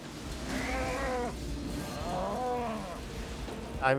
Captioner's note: cow mooing